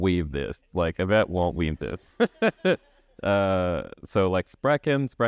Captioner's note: chuckles